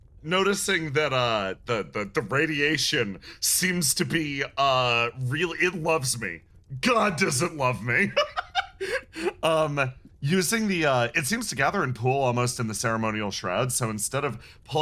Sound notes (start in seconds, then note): 6.9 laugh